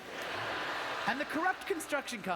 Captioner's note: audience laughter